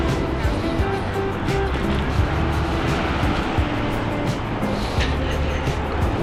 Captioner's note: wind Blowing